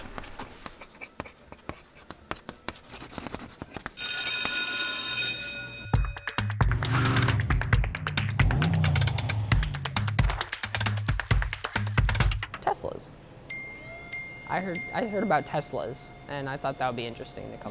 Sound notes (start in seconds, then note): 0.3 chalk scribbling on a blackboard; 4.0 school bell ringing; 5.9 upbeat music; 6.6 engine roaring